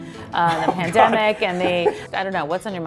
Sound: Alex laughs

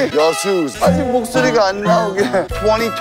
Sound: starts the new year with his voice cracking during the opening

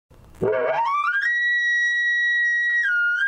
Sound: elk call

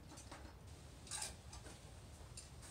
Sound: click

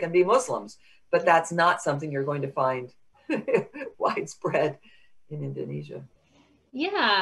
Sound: chuckles

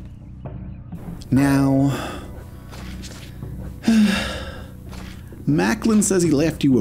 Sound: long sigh

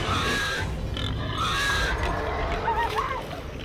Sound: bleating

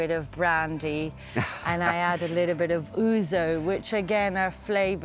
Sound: laughs

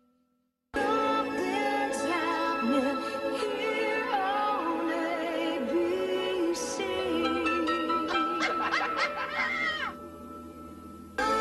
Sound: lady laughing

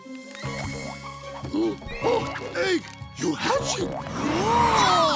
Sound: gasps

